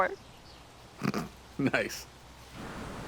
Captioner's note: laughs